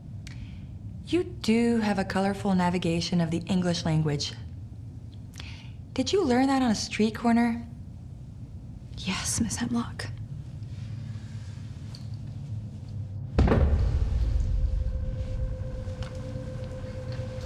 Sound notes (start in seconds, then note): 13.2 chair thudding; 14.8 tense music